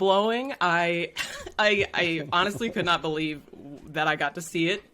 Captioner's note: laughs